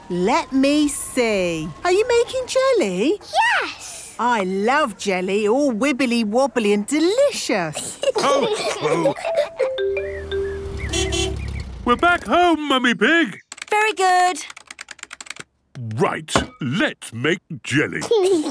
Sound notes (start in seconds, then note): 7.7 laughs; 9.8 horn honking; 18.0 giggles